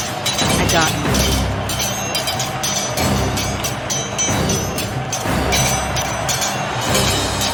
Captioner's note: dramatic orchestral music; swords clanging